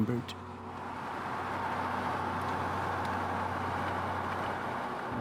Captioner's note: traffic humming